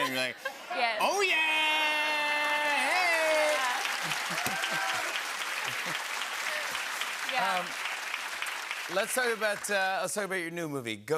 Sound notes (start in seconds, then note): 3.9 cheers and applause